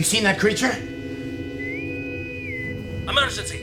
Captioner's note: bosun whistle